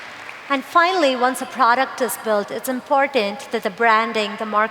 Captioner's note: applause